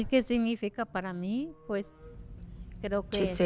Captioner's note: speaking Spanish